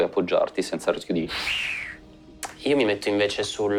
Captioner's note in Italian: Fischio